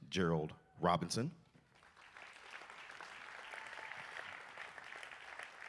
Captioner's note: applause